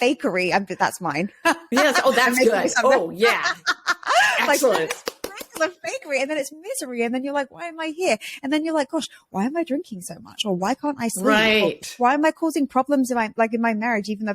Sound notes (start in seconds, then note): 1.5 laughs; 4.4 claps